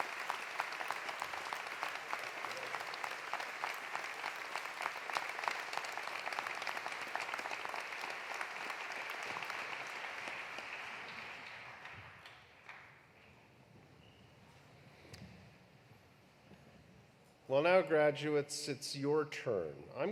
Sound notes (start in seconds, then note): 0.2 applause continues; 0.2 cheering continues; 8.2 applause continues; 8.2 cheering continues